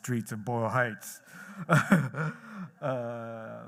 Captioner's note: chuckles